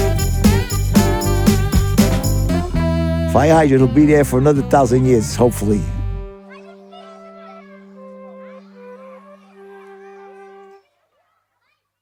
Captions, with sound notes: [upbeat music continues] Fire hydrant will be there for another thousand years, hopefully. [kids chattering]